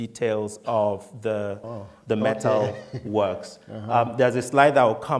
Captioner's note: laughing